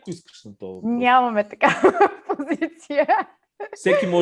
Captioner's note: laughs